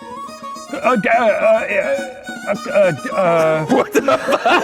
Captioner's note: stammers; all laughs